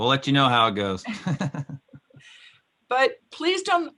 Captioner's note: laughing